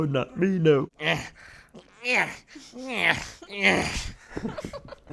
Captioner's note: grunts as Yoda walks; laughing